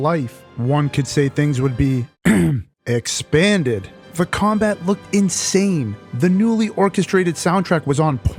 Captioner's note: ahem